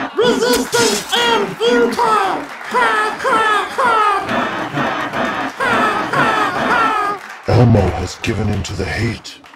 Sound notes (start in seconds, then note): 3.4 laughs; 4.1 Borg laughs; 5.5 both laugh